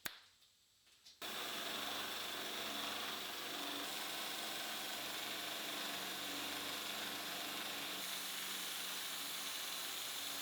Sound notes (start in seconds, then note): 1.3 machine whirring